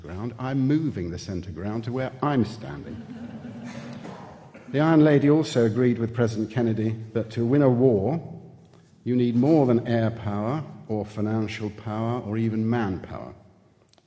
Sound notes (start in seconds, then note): 2.8 audience laughing